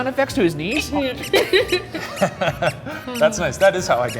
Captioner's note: squeaking